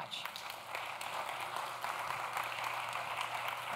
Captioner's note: applause